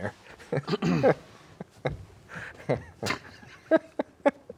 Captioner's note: both laughing